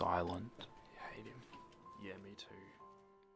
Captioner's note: whispers